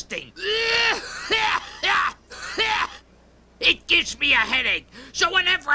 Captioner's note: coughing